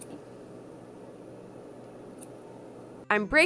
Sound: snippity snip snips

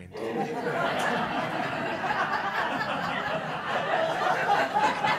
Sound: all chuckles

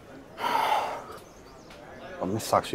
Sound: sighs

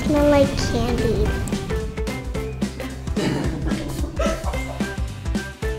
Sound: background laughter; upbeat music plays

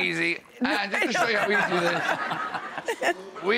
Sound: laughter

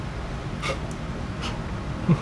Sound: snickers

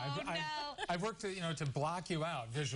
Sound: laughter

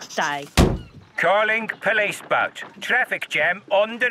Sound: voice over radio

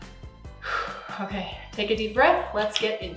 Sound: exhales

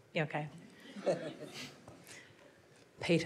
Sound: audience laughs

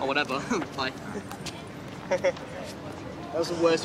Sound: chuckles

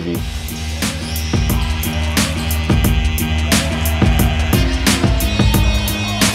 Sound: upbeat music; players shouting

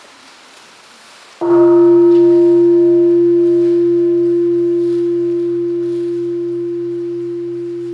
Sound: bell ringing

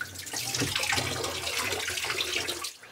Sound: splashing

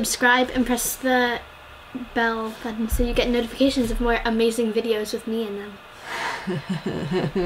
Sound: laugh

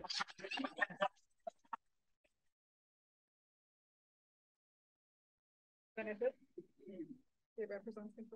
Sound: audio cuts out

